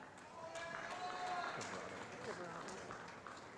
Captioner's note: applause